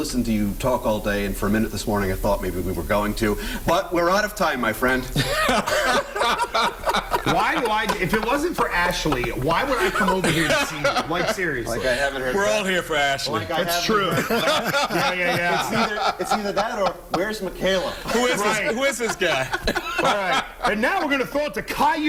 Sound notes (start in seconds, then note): 9.2 laughter